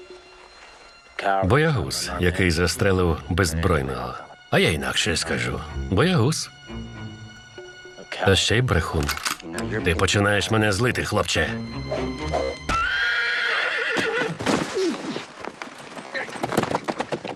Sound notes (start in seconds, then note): 12.2 whirring; 12.3 smack, horse neighing